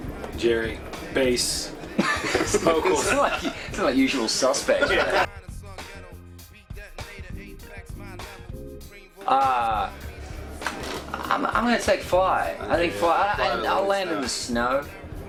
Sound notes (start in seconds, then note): 1.8 laughter